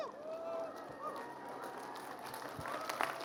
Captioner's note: applause